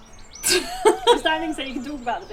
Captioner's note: laughs